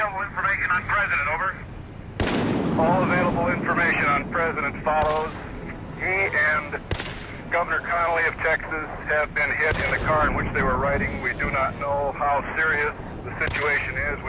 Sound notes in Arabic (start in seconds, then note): 0.0 صوت طقطقة ثابت في الراديو; 2.1 أصواتُ إطلاقِ النار; 2.2 رعدٌ يهزّ; 6.8 انفجارات البندقية